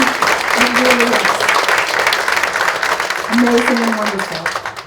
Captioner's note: audience claps